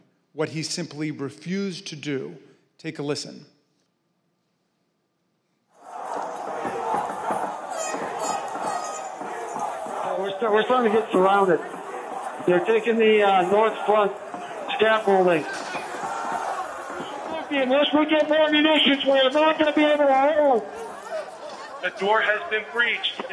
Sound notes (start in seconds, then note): 10.4 shouting; 14.1 chanting we want trump